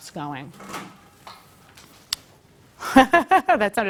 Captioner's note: laugh